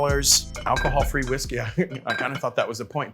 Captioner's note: bottles clanging; register bell rings; laughs